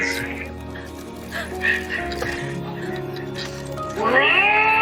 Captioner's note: crying